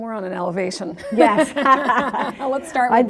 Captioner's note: both laugh